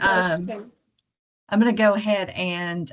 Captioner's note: participant chatter